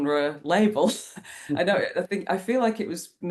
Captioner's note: laughs